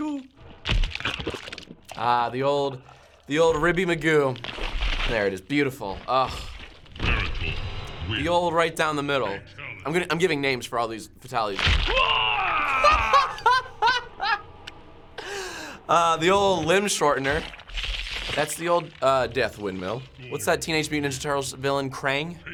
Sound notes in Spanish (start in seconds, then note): 11.9 En el juego: gemido dolorido; 12.7 Ríe a carcajadas